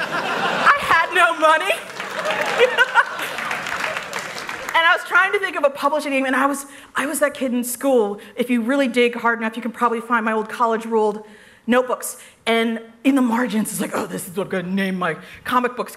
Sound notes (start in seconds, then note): 2.0 laughter